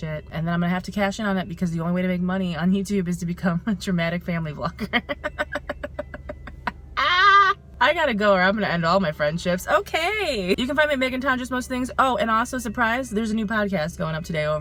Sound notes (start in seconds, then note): 5.1 laughing